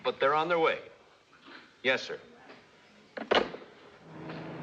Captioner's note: handset Settles In Cradle